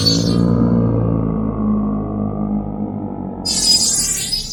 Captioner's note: animal growling